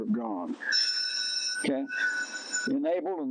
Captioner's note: alarm blaring